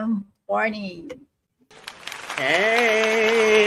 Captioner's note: audience applauding